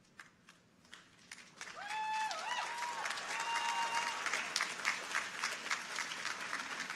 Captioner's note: audience applauds; people cheer